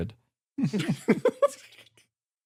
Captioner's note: laughs